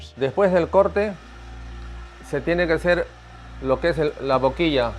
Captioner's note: speaking Spanish